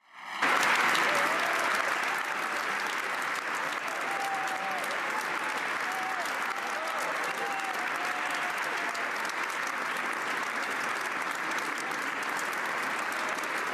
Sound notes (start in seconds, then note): 3.0 applause